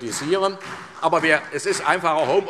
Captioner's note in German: Beifall SPD